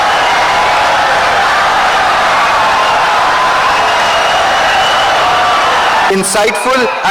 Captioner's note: wild applause and cheering for 17 seconds